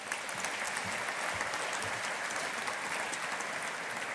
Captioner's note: audience applauding